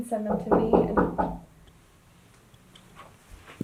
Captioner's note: knock at the door